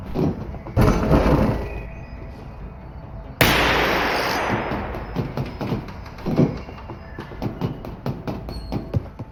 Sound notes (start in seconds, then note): 3.4 gunshot